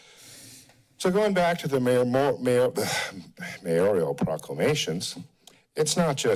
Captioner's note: stutters